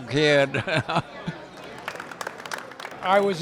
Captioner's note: laugh; applause